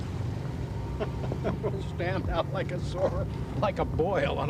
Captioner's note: laughs